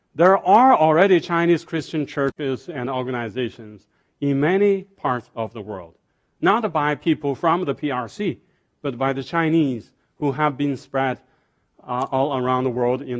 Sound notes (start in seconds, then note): none